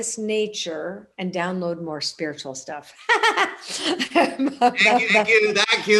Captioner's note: laughs